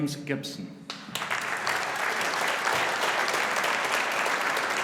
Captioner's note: audience applauding